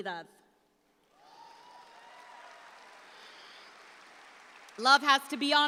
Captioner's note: audience applauds